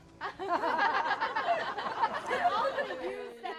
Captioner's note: crowd laughs